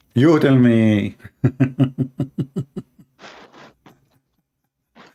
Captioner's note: Ketawa